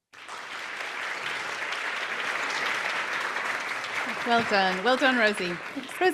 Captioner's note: applause